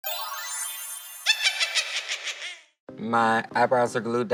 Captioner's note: witch cackling